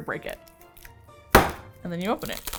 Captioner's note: bang